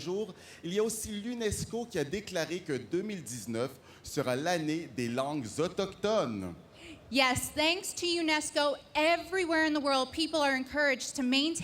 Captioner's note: speaking French